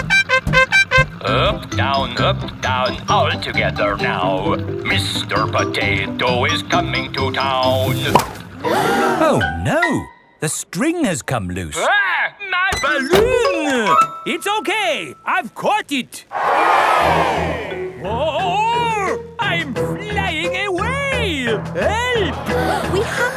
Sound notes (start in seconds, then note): 0.0 horn beeping; 8.4 all gasp; 16.3 crowd cheers